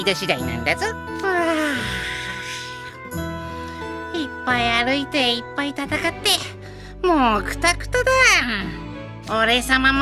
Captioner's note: yawn